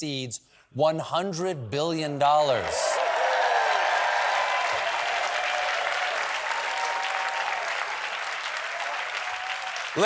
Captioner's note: cheers and applause